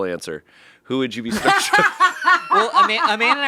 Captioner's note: laughing